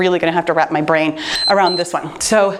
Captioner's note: timer beeps